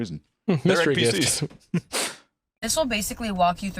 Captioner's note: laughs